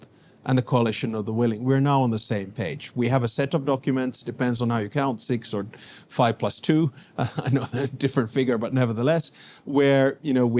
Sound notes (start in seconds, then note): 7.2 laughs